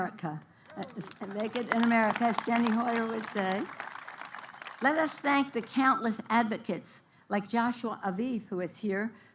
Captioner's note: applause